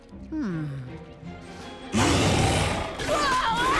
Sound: roaring

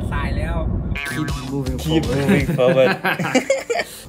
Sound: laugh

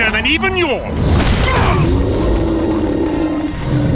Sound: fighting grunts and impacts

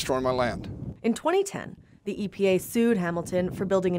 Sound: voiceover

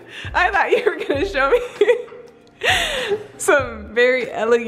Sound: laughing

